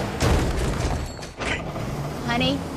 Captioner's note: trailer crashes into a pillar